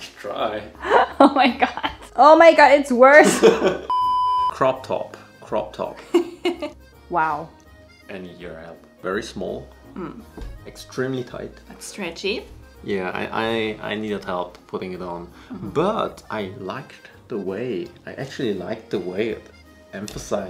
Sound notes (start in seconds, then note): 0.8 laughs; 3.3 laughs; 6.7 laughs